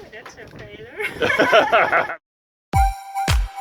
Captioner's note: laughs